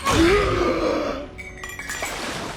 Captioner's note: groans